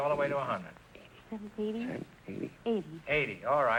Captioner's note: whispering